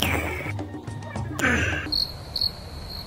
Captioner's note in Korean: 아~